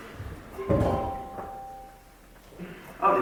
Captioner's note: phone chimes